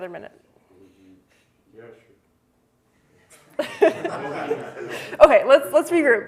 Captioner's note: laughter